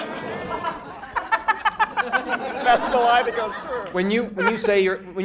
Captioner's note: cackles